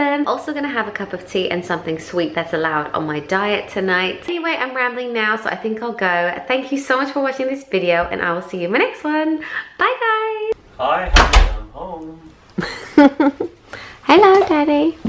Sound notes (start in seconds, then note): 12.6 laughing